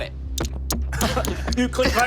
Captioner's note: thudding